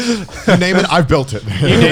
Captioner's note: laughs